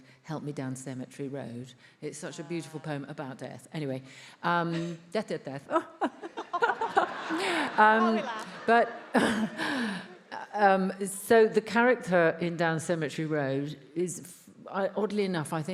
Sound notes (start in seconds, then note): 6.0 laughs; 6.1 all laughs